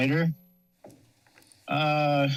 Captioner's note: pause